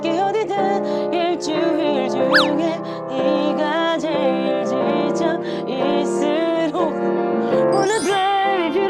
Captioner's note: bouncing with excitement